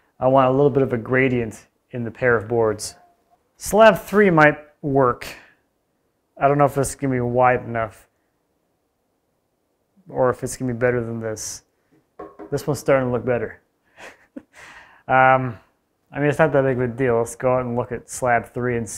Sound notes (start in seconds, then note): 14.0 laughs